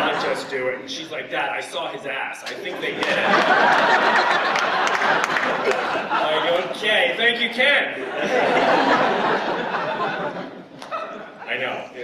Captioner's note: laughter